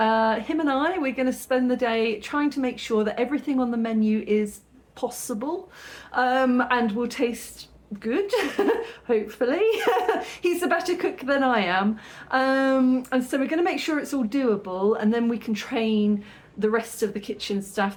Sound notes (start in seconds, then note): 9.8 laughing